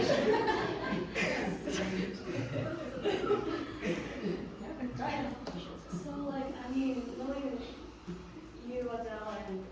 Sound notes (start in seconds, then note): 0.0 audience continues laughing